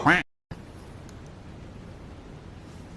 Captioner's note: quack